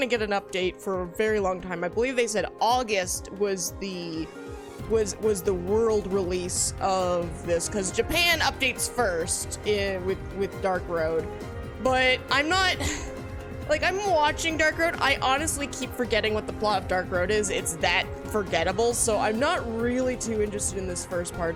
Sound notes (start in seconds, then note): 12.9 sigh